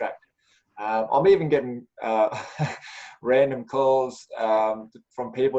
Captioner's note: laughs